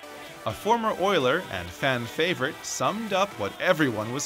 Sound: voiceover

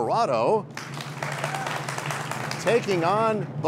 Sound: cheers and applause

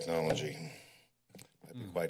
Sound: pause

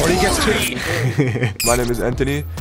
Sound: giggles

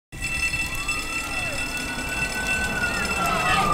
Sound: alarm bell ringing, siren wailing

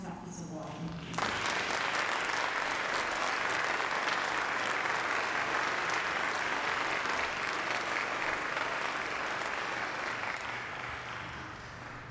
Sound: applause

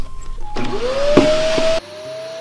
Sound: vacuum starts

